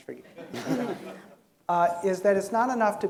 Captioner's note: audience giggling